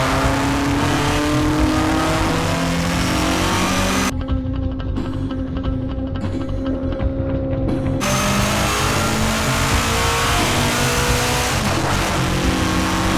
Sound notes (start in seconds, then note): 0.0 car engine roars; 8.5 machine whirs